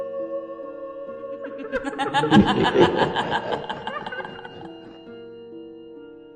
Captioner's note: laughter